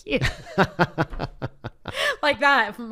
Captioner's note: laughs